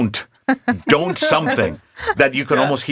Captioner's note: laughing